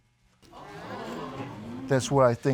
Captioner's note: audience exclaiming